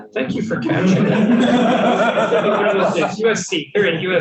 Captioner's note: panelists laughing